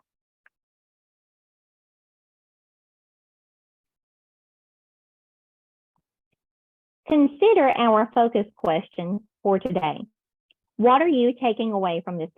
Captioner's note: silence